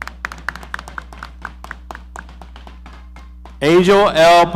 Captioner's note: audience applauding